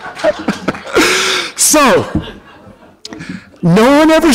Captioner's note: laughter